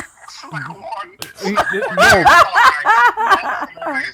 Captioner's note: laughing